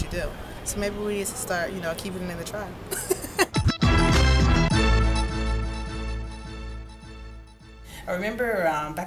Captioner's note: laughs